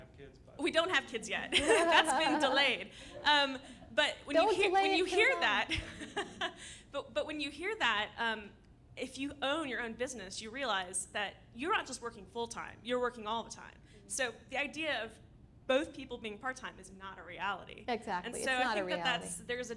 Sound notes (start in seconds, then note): 1.5 laughter